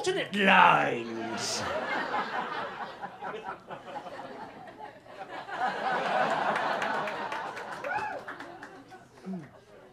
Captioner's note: laughter